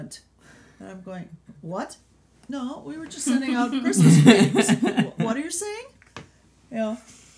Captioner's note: laughter